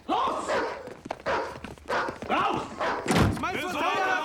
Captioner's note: speaking german; dog barking